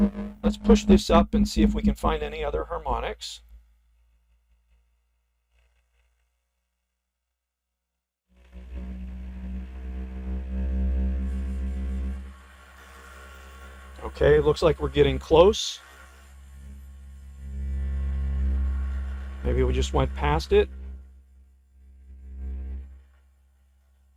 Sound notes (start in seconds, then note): 4.0 moving the frequency higher, some noise